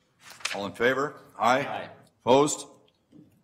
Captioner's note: multiple voices